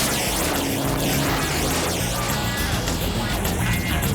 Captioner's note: car engines revving; John laughs